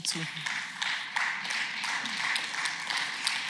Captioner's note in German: Beifall